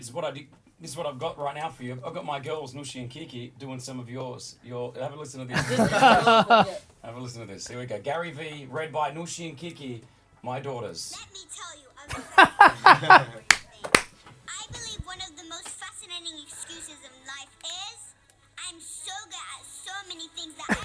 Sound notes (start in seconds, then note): 5.5 laughing; 12.1 laughing